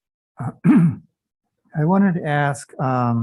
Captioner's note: clears throat